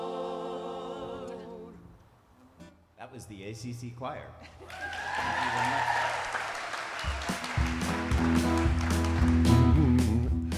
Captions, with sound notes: - That was the ACC Choir. (attendees applauding)